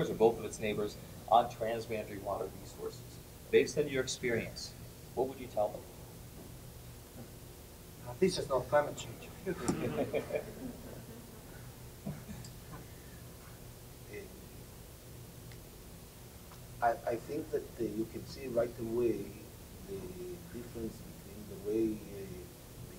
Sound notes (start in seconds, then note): 9.5 laughter